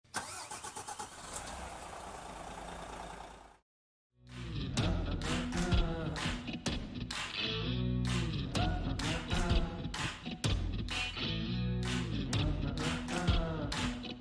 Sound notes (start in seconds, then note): 1.7 engine humming; 4.3 upbeat music